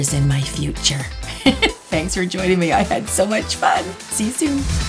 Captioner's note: giggle